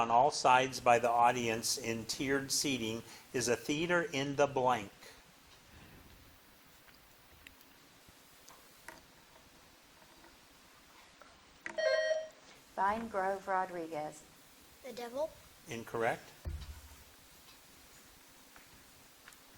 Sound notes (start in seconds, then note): 11.8 bell dinging